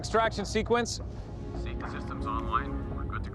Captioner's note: computer voice